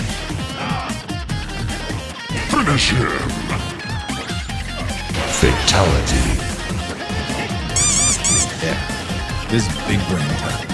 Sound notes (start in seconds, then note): 7.7 squeaks, again